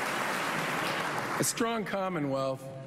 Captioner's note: applause